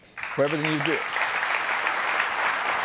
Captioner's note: audience applauding